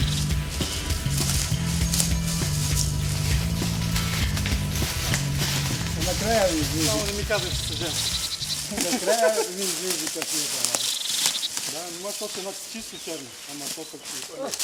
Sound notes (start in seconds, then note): 8.6 laughing